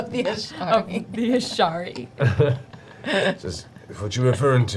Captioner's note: laughs; laughs